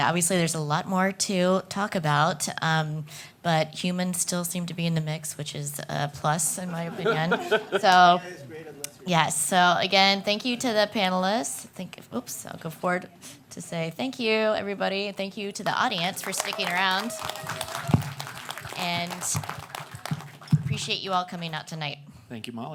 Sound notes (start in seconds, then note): 6.7 laughing; 17.5 cheers and applause